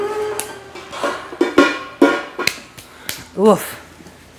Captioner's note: horn blowing; pot clanking